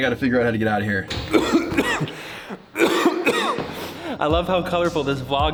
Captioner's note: coughing